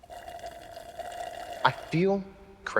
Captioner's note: Moira slurping